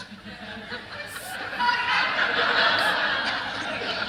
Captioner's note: laughter